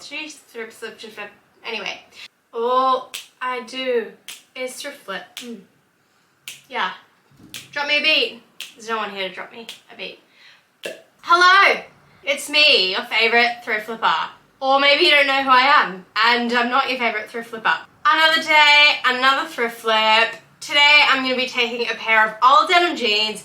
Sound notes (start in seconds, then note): 4.2 clicks fingers; 8.6 continues to click fingers; 10.8 makes pop sound with mouth